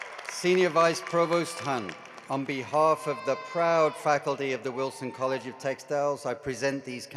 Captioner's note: cheering and applause